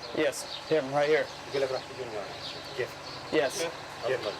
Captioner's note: man speaking in Arabic